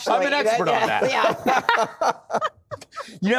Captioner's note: laughter